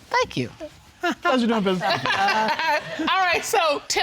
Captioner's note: judge dana laughing